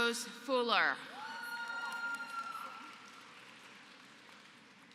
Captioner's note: applause